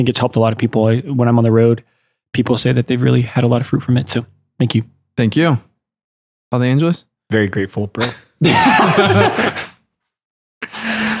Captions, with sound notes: I think it's helped a lot of people. When I'm on the road, people say that they've really had a lot of fruit from it, so thank you. - Thank you. - Father Angelus? - Very grateful, bro. (laughter)